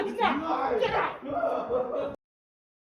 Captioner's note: yelling and crying; yelling